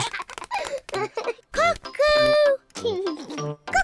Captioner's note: laughs